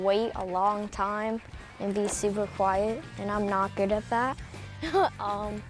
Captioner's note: chuckles